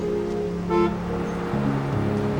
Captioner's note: horn honks